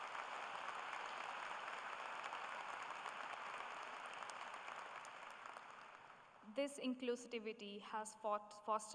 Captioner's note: applause